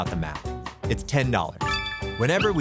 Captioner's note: dinging